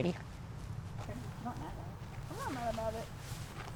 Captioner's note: distant talking